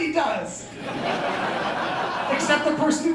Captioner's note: laughter